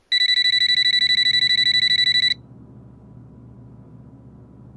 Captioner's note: telephone ringing